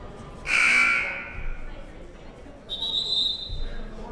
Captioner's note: buzzer blares; whistle blows